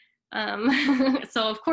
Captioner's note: chuckles